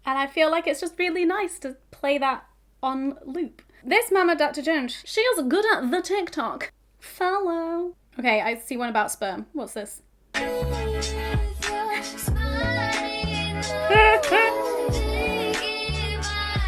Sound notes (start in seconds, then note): 12.2 laughing